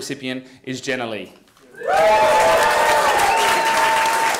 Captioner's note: applause